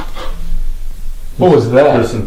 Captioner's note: ghost moans